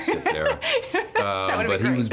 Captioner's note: laughing